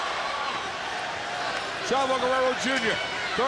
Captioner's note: crowd cheering